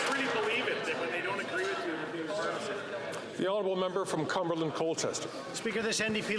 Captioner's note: some Applause